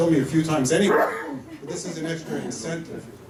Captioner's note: laughter